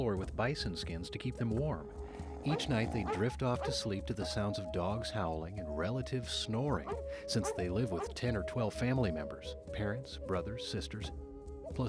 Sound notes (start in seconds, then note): 2.2 dog barks